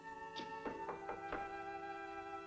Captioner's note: knock on door